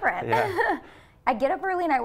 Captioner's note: chuckles